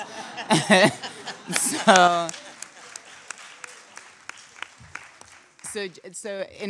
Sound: laughs; audience laughing; audience applauding

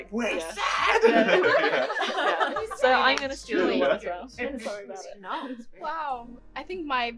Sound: laughs

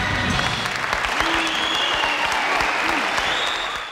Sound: audience applauding

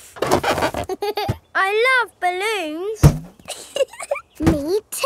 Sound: chuckles

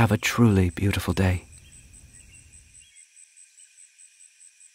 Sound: birds chirping

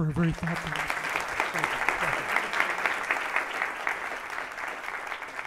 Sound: applause

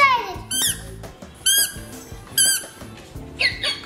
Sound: toy squeaks; soft music

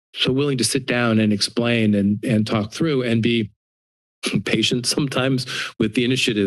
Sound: chuckles

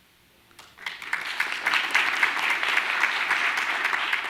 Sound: audience applauding

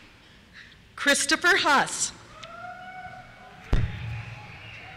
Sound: cheers

